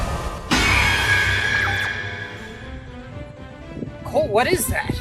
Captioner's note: sieger screech